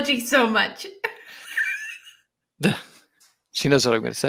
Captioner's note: people laughing